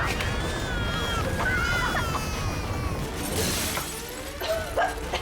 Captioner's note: baby crying